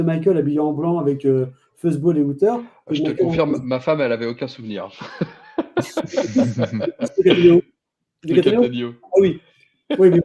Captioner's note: laughs